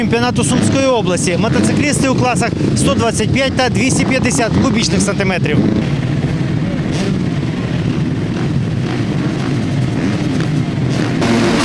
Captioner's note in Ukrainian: шум моторів мотоциклів